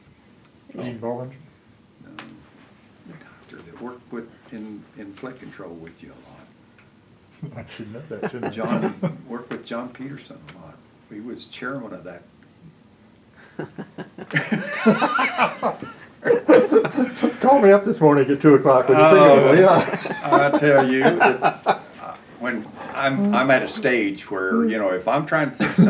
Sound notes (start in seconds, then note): 13.4 laughter; 19.3 laughter